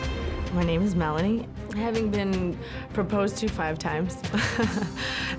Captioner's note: chuckling